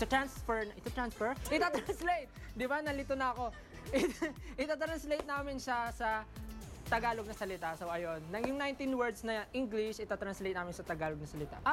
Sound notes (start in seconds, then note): 3.6 laughs